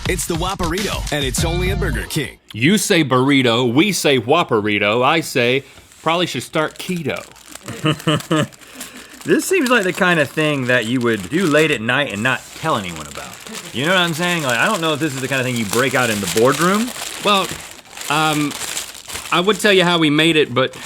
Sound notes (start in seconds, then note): 7.6 chuckles